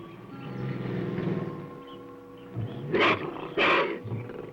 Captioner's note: growling